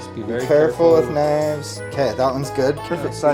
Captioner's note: said in unison